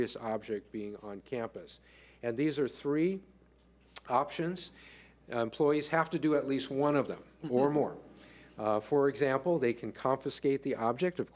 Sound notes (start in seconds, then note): none